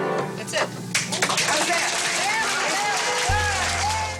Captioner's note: audience clapping